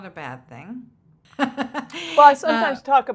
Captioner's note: laughs